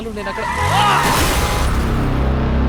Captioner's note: Ravi yells